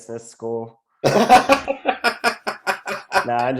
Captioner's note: laughing